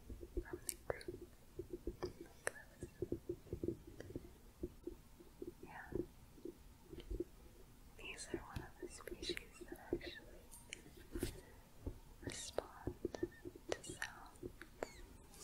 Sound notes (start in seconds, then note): 3.4 light tapping; 5.3 tapping; 15.2 shuffling, tapping